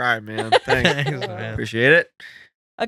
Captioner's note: laughing